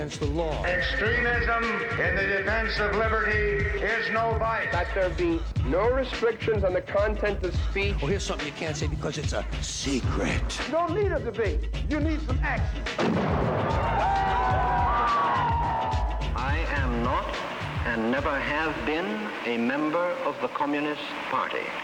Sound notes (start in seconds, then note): 12.9 gunfire; 13.7 cheering